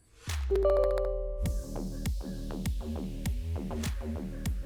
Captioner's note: computer bell tone